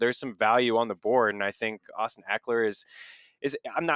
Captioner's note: inhales